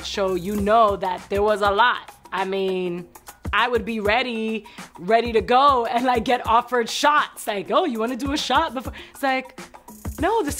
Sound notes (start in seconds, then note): none